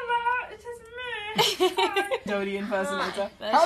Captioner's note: laughter